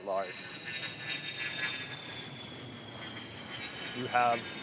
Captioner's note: plane engine roaring